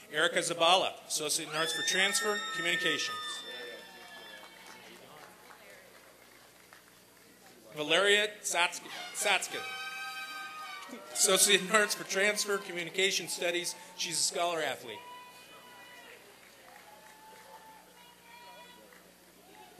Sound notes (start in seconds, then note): 3.7 applause and cheering; 14.7 applause and cheering